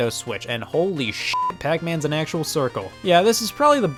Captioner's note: beep